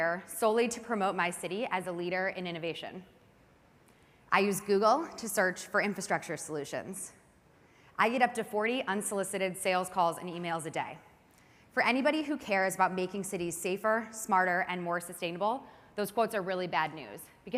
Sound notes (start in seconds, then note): none